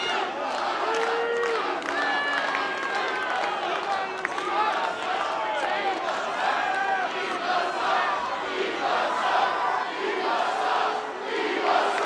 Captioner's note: crowd cheering